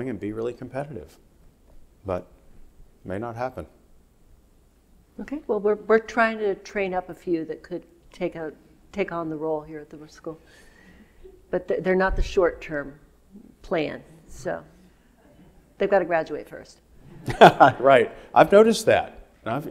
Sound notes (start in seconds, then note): 17.2 Joe laughing